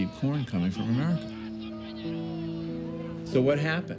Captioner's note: yelling